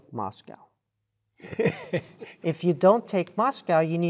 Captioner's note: laugh